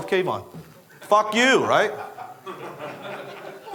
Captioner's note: audience members laugh